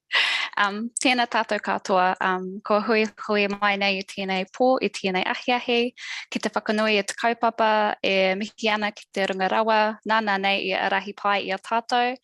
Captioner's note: non-english speech